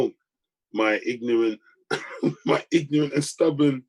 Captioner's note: laughs